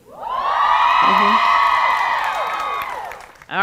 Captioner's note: cheering